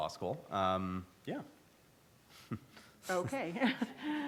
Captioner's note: laughs